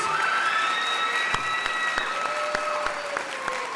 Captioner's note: crowd applauding